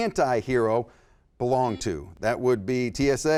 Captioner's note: beep